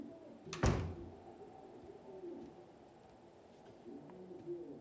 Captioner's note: door shuts